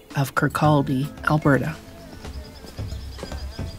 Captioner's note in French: gazouillis d'oiseaux